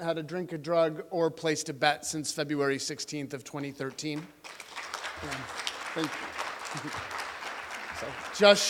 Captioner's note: applause